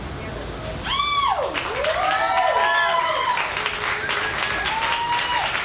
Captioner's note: audience cheers and applauds